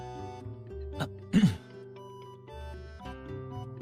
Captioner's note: cough